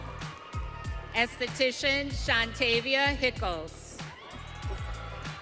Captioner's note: audience cheering